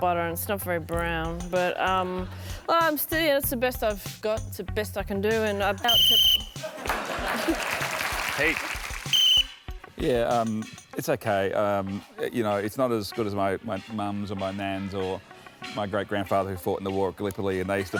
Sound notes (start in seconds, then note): 5.8 whistle blows; 6.6 applause; 9.0 whistle blows